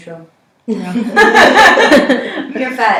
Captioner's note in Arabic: ضحكات